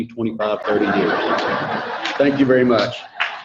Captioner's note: audience laughing